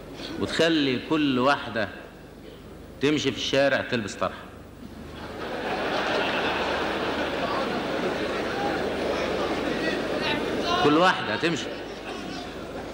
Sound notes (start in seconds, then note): 5.1 audience laughter; 9.5 audience reactions